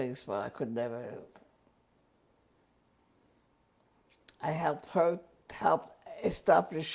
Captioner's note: pauses for 3 seconds